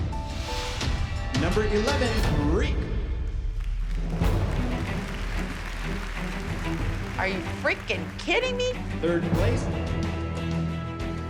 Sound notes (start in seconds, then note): 3.5 applause